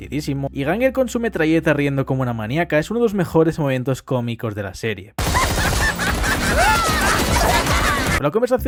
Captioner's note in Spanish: risas